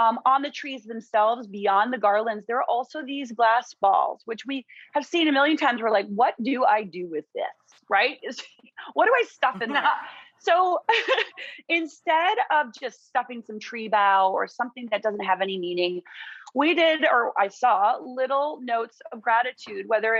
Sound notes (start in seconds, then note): 9.5 both laughing